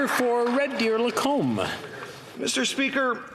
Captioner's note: some Applause